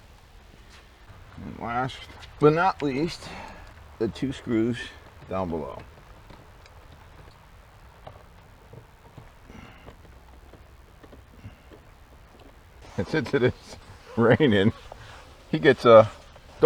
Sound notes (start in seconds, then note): 12.8 laughing